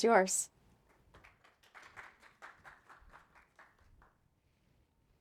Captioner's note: audience applauding